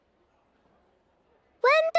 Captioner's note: silence